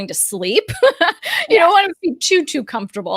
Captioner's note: laughs